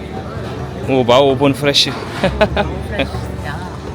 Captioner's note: laugh